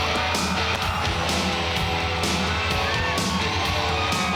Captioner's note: crowd cheering